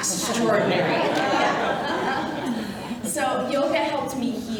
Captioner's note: audience laughing